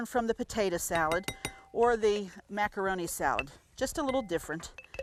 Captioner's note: spoon banging